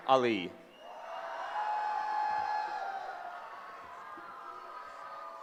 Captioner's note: cheering